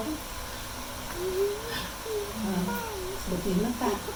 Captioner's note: gasping